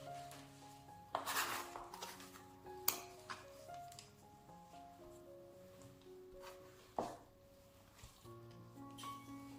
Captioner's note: dough sound